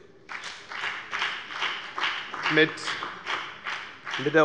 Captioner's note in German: Beifall bei der FDP und bei Abgeordneten des BÜNDNISSES 90/DIE GRÜNEN